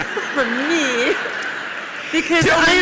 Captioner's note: audience laughs